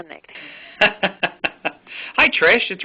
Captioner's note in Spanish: Risas